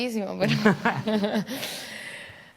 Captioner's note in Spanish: Risas